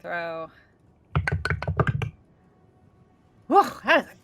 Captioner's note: dice rolling